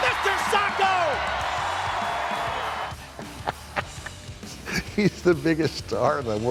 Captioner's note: laugh